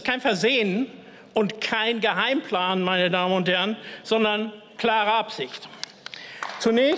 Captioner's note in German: Beifall